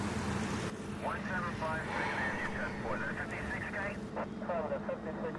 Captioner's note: radio dispatchers chatter